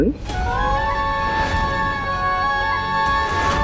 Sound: emotional vocalising

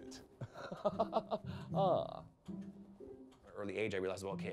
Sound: laughs

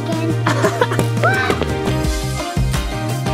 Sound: chuckles; upbeat music

